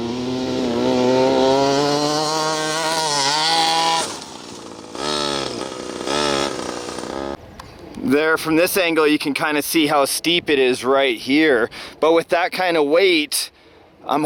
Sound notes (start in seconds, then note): 0.0 truck engine revving